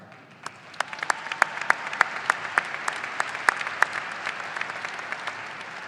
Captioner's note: audience applauding and cheering